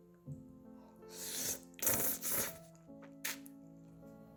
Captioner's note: slurp